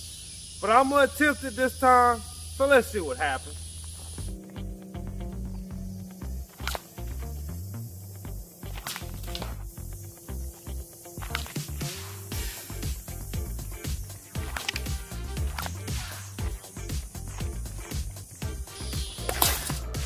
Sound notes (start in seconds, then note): 3.8 suspenseful music; 6.5 rope snapping